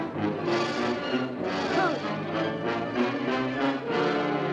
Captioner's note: groans